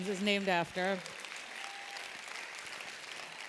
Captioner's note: applause